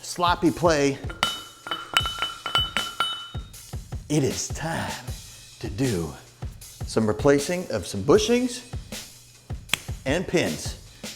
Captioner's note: clanking